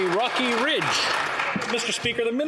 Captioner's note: some Applause